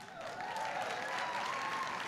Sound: applause

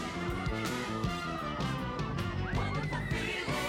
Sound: screaming

